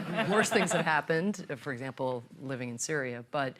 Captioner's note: laughter